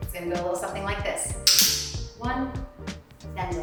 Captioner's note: clicker clicking